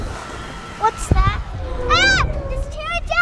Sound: Pterodactyl roars; screams

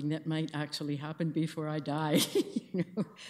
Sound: laughs

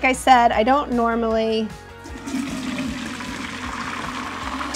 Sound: liquid burbles

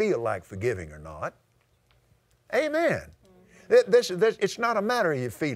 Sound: audience "Amens"

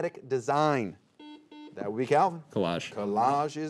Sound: buzzer beeping

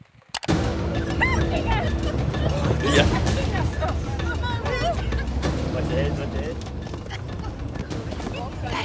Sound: panicked muttering

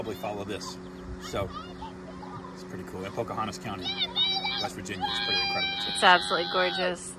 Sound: kids yelling

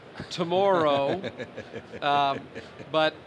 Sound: laughing

